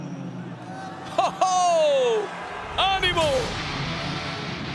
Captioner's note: laugh